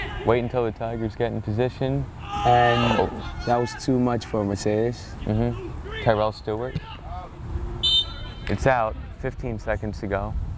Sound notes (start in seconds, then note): 7.8 whistle blows